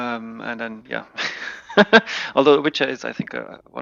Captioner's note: laughing